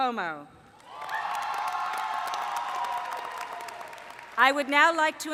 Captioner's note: cheering